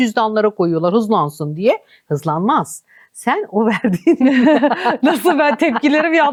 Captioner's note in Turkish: kahkaha